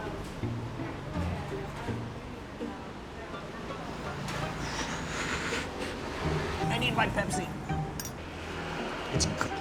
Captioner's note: exhales